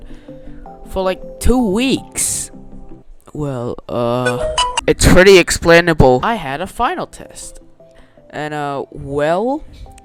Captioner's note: android sounds